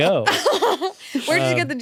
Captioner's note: laughs